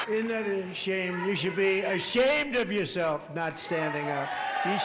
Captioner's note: cheering